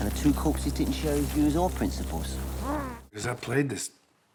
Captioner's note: gags